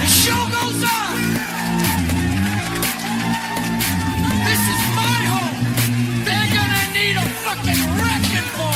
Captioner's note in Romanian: Aplauze